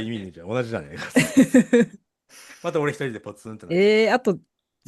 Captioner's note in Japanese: 笑い